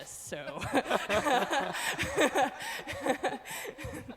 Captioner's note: laughing